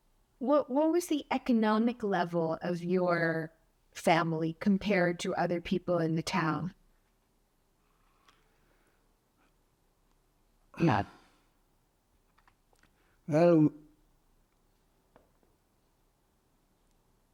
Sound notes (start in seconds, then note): 10.8 sighing